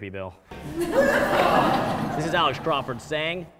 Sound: audience laughs

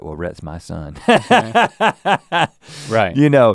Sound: laughs

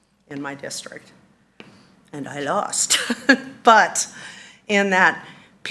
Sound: laughs

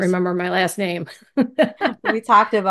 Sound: laughs

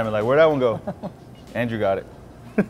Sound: laughs

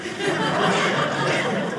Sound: audience laughing

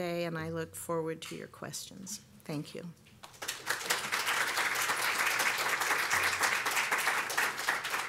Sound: applause

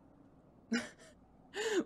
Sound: Regulus laughs

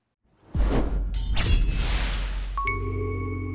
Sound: sword slash; swoosh; intro jingle

